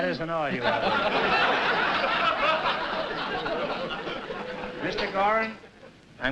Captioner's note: laughter